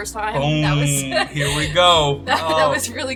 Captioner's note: chuckling